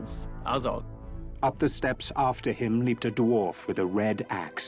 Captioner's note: narrator reading on-screen text